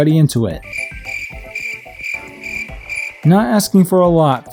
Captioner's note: crickets chirping